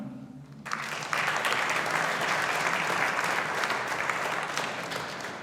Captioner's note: audience applauding